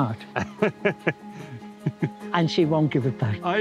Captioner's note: laughs